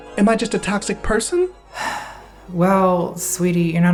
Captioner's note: sighing